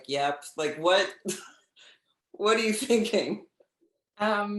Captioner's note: laughs